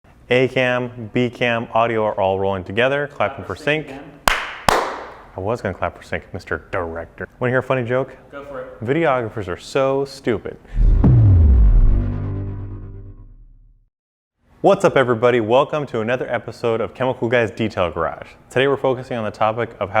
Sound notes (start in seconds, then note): 4.2 claps; 10.8 dramatic music